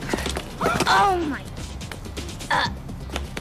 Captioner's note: groaning